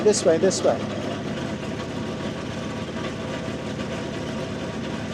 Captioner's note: skid steer rumbling